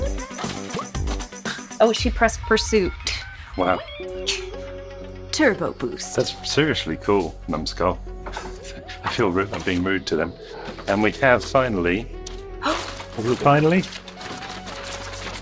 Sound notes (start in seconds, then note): 12.1 gasps